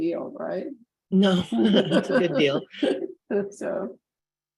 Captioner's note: chuckling